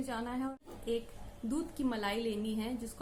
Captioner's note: in hindi